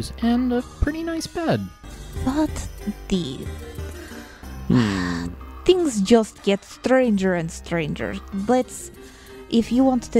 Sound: sighs

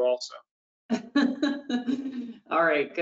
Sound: laughs

